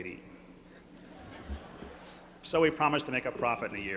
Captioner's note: laughter